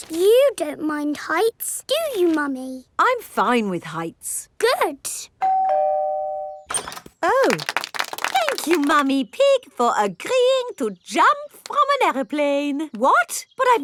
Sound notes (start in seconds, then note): 5.4 doorbell ringing; 7.4 crowd applauding